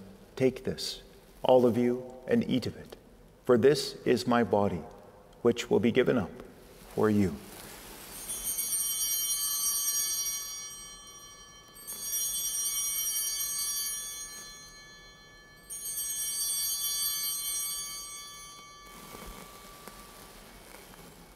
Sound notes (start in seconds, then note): 8.4 bell ringing